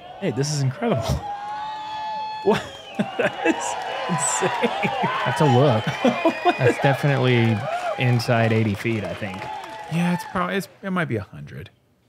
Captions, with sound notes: -Hey, this is incredible. What [chuckles] that is insane. -That's a look. That's definitely inside 80 feet I think. -Yes, it might be 100,